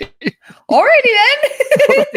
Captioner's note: laughs